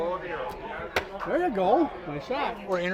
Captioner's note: smack of arrow hitting target